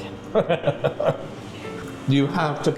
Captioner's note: laughing